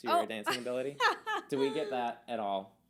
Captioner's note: laughing